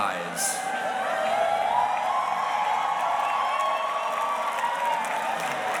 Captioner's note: audience cheers and applauds